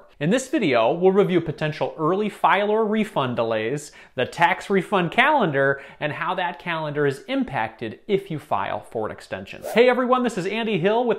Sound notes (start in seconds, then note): 9.6 whooshing